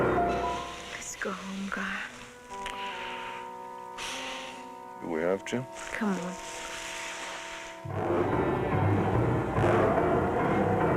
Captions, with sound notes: Let's go home, Gar. Do we have to? Come on. [growling]